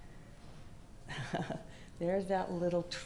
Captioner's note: laughs